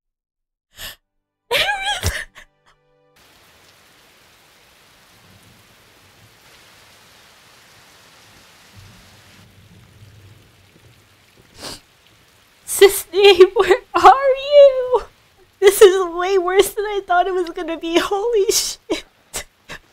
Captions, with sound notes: (crying) aerith! cissnei where are you! this is way worse than i thought is was going to be, holy shit.